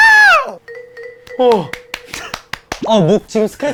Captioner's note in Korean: 자동 박수